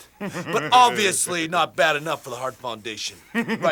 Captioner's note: Jim chuckling; Jim chuckling